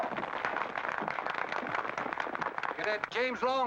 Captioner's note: crowd applause